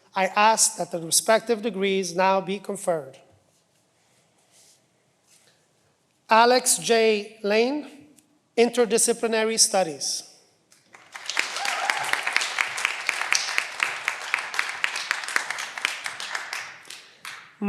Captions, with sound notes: I asked that the respective degrees now be conferred. Alex J. Lein, Interdisciplinary Studies. (cheering)